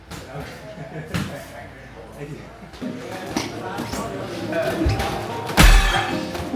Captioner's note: chuckling; clunking